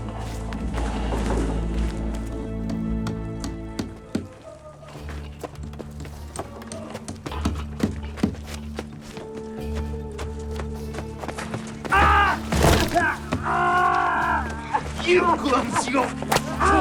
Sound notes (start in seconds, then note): 2.2 hammering; 4.7 suspenseful music playing; 11.9 screams